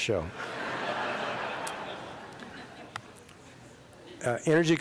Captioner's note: laughter